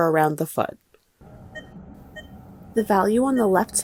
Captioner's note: machine beeping